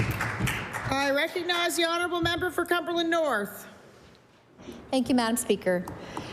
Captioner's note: applause